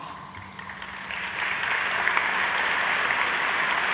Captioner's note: audience applauds